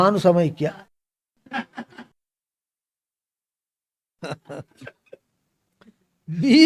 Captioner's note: laughs